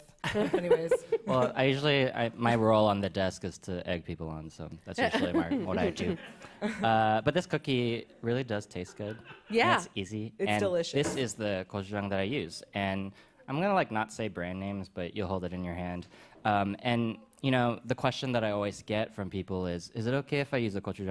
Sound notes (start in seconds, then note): 0.2 laughs; 5.1 laughter; 5.2 laughs; 8.8 laughter